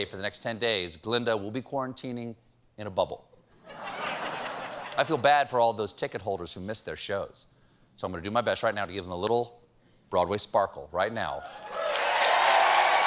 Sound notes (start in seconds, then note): 3.6 laughter